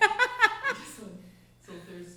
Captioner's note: laughing